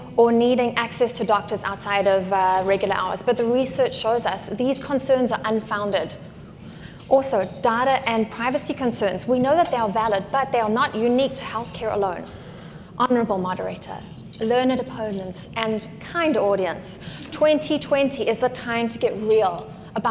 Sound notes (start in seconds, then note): none